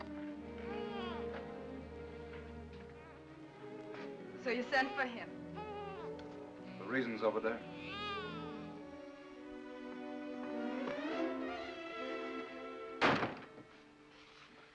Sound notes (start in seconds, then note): 0.1 soft music; 0.6 baby whimpers; 5.5 baby whimpers; 10.4 ominous music; 13.0 door closes hard